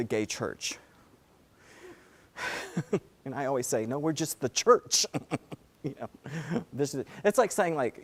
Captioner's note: laugh